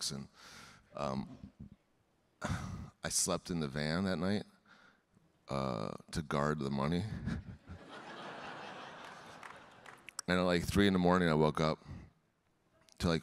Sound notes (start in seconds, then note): 7.6 audience laughing; 8.8 audience clapping